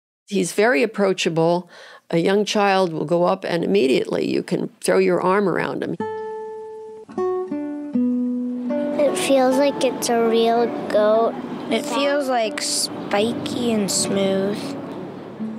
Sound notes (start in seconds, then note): 6.1 plucking string music; 9.0 child’s voice